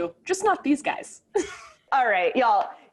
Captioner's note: laughing